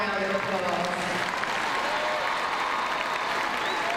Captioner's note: crowd cheering